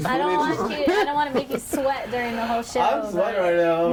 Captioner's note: overlapping chatter